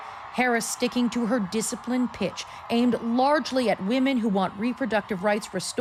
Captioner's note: cheers and Applause